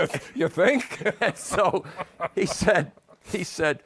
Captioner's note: laughs